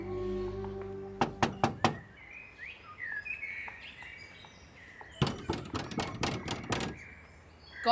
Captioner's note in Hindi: दरवाजा खटखटाया